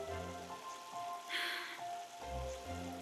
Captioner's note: sighs